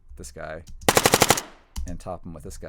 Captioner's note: gun bangs multiple times